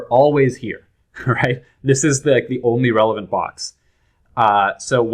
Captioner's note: laughter